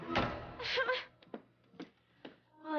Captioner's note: sobbing